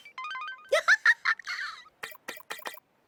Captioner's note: laughter